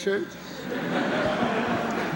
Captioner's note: laughter